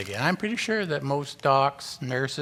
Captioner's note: none